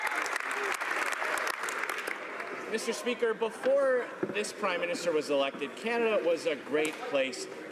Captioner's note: some Applause